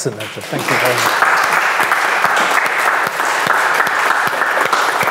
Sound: audience applauds

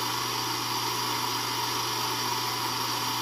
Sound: vacuum

